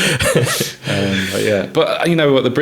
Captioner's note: laughing